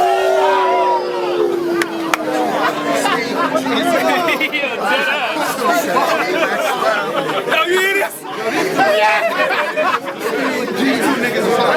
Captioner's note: crowd Reaction